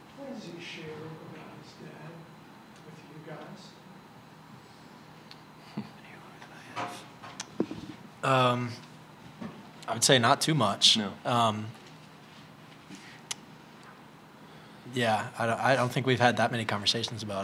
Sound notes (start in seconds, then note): 6.2 whispering